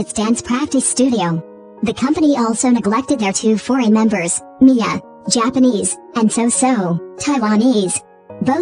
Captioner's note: Taiwanese